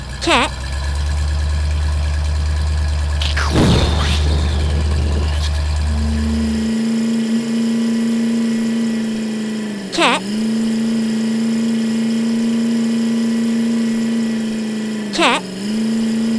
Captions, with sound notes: Narrator> CAT [ explosion ] [ engine sound ] Narrator> CAT Narrator> CAT